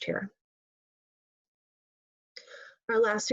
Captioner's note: pause